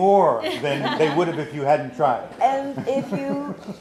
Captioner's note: laughs